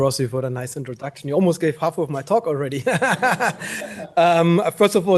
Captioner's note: laughs